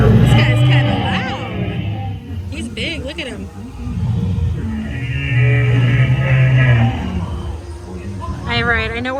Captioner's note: dinosaur Noises